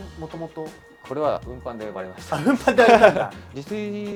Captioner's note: laughs